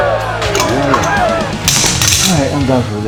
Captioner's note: cheering; clattering